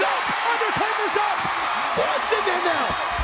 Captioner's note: audience cheers